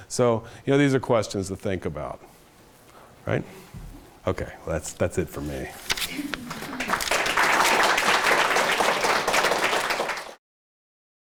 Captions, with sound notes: So these are questions to think about. Okay well that's it for me. (audience applauding)